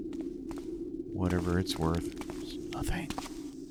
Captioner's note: whispers